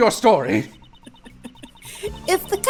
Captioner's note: chuckling